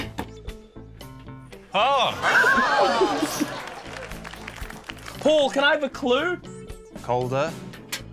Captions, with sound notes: - Oh! - (LAUGHS) (APPLAUSE) Paul, can I have a clue? - Colder.